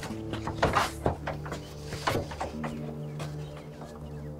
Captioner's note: footsteps thudding; door handle rattles